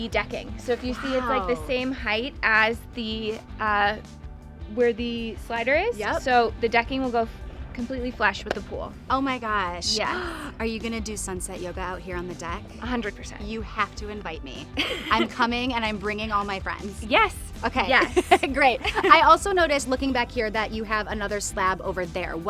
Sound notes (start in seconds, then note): 17.8 laughs